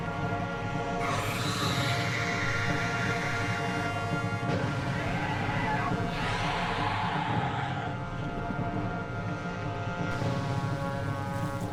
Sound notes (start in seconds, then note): 1.0 dragon hisses; 4.9 roars